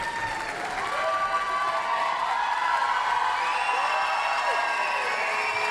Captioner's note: cheering